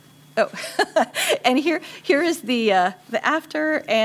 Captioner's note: laughter